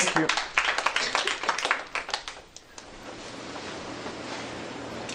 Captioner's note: applause